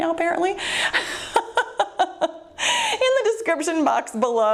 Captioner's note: laughs